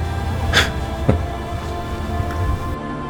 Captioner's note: Max chuckles